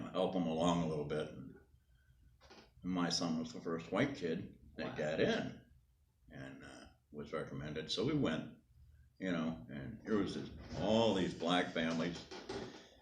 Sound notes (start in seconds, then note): none